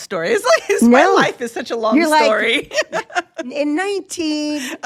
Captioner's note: laughs